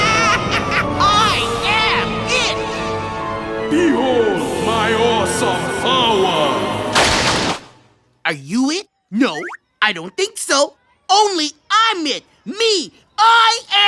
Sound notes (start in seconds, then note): 0.0 maniacal laughter; 2.9 deepened god-like voice